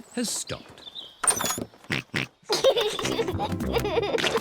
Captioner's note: snorts and giggles